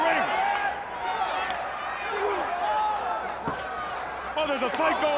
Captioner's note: crowd chatter